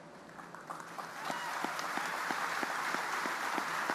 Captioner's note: audience applauding